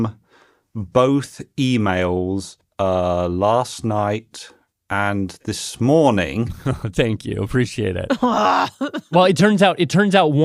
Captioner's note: laughs